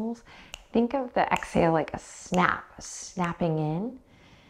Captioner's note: snaps